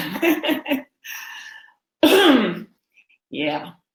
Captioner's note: laughing